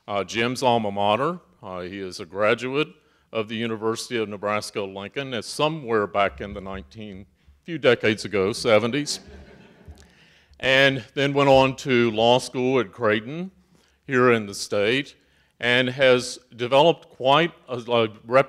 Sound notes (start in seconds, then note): 8.6 audience chuckles